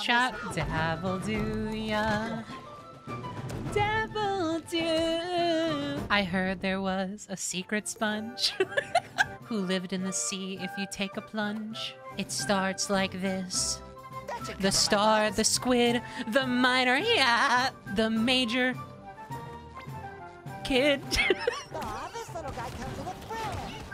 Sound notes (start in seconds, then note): 21.1 laughter; 21.1 SpongeBob Laugh